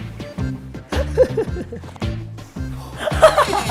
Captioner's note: laughing like a crazy person